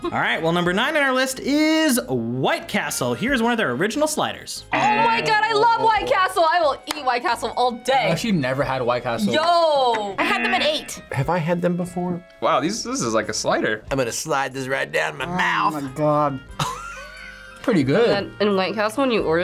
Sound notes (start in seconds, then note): 0.0 laughs; 4.7 buzzer rings; 10.2 buzzer rings; 16.5 laughs